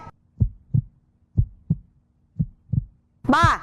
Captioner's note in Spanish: sonidos de latidos del corazón